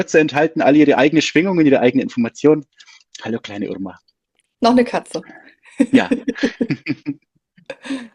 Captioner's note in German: gelächter